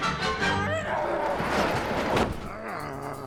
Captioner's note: garage door rattling; zombie walter groaning